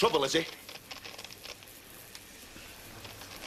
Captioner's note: static buzzing on radio